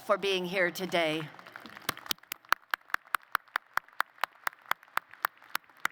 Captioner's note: applause